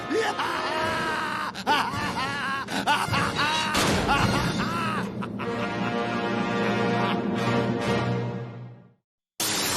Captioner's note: wild laughter